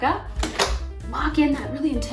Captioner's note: lid closing